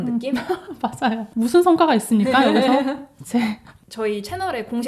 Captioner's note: laughs